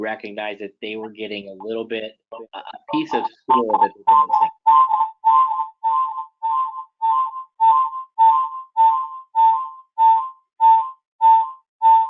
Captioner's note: feedback noise